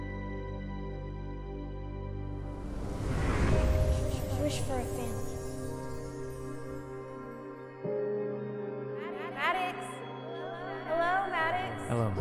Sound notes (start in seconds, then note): 0.0 uplifting music fades; 2.4 air swooshes